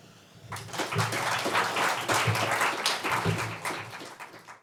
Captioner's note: audience applauds